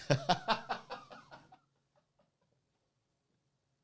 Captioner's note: laughing